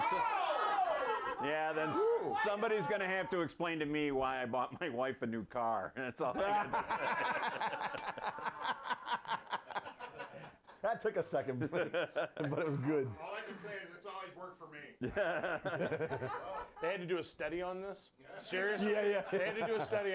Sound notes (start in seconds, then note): 7.9 bell rings